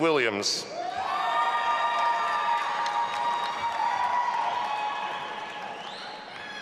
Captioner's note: audience applauding and cheering